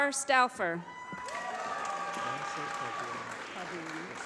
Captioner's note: applause